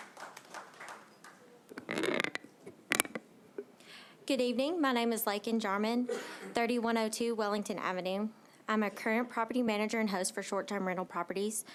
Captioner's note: applause